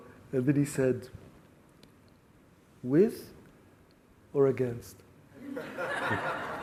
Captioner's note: laughs